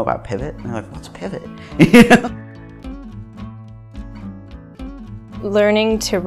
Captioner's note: laughing